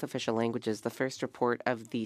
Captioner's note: speaking French